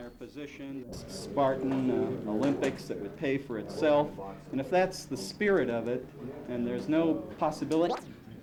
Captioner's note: camera noise